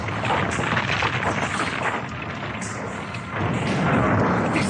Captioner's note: SFX: cave collapsing